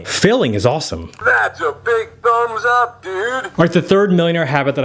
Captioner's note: electronic Voice